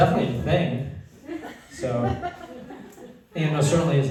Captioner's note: laughter